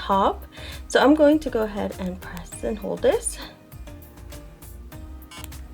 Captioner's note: bzzz